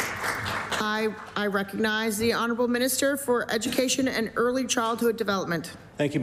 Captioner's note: applause